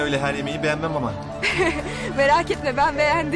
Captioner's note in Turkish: gülme sesi̇